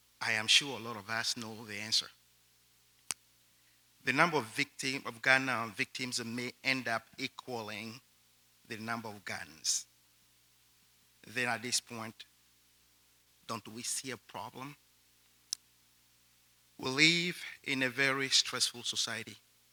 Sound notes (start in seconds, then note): none